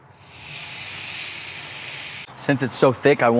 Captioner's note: grill sizzles